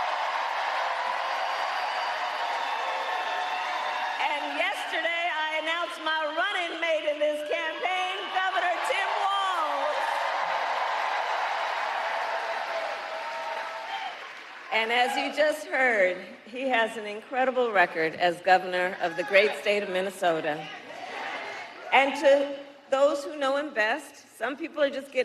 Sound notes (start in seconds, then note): 0.0 cheers and applause; 7.2 cheers and applause